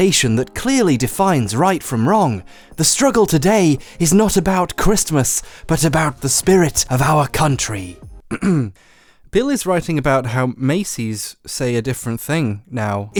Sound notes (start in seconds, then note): 8.2 clears throat